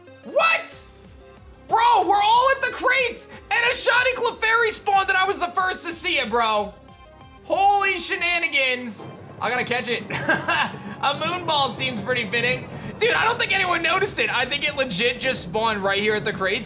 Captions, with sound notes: What?! Bro, we're all at the crates and a Shiny Clefairy spawned that I was the first to see it, bro. Holy shenanigans. I gotta catch it. (laughs) A Moon Ball seemed pretty fitting. Dude, I don't think anyone noticed it. I think it legit just spawned right here at the crates,